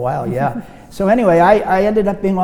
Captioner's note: laughs